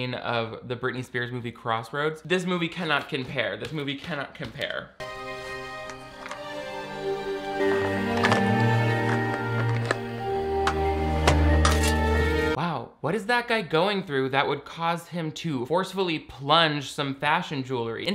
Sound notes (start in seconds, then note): 5.0 shovel clanging; 5.0 dramatic symphonic music